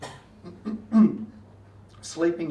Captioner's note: clears throat